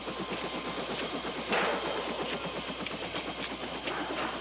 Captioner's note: helicopter